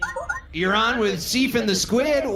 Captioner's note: communicator beeps